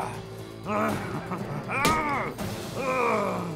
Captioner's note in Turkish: Noyan haykırma sesi; İnleme sesi